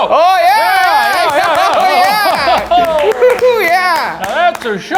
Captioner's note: both cheering; both applauding